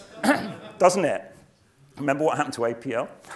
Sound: laugh

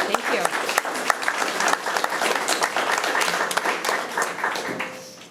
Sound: all clapping

